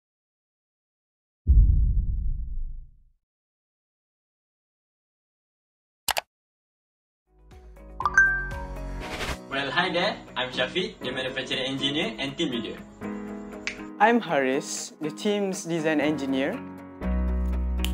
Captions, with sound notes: [CLICK] Well hi there! I’m Syafiq! The Manufacturing Engineer and team leader. I’m Haris, the team’s Design Engineer.